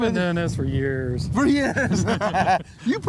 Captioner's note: laughs